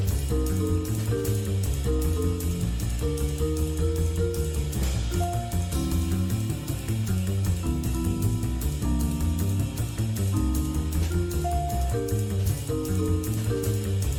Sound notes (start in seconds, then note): none